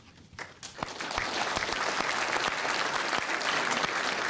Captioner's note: applause